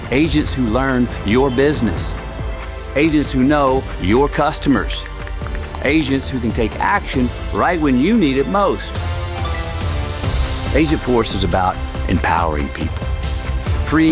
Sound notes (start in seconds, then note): 9.4 notification beeps